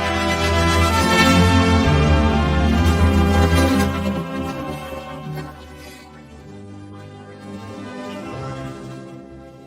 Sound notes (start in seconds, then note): 6.3 Kaufmo growls; 6.3 curious music plays